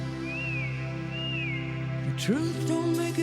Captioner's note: whistle